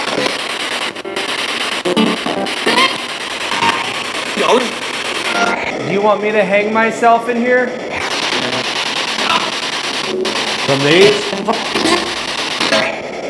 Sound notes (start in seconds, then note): 4.4 disembodied Voice